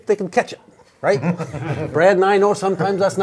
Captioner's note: all laughing